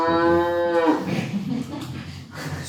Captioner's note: laughing